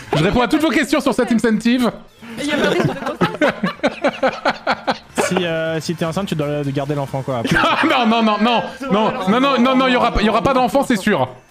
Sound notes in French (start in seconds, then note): 2.4 rires